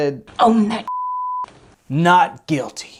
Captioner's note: beep